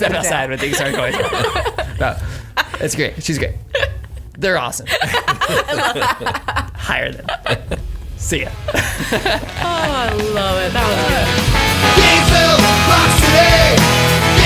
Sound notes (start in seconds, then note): 4.8 group laughing; 9.0 laughs